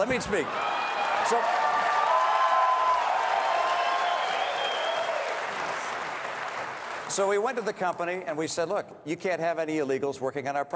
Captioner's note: cheering and applause